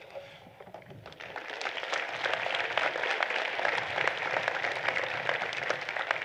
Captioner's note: applause